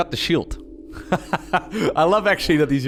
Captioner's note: laughs